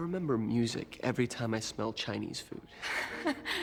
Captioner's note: laughing